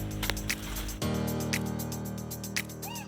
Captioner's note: laughs